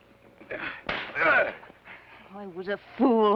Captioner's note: slap; Theodore grunts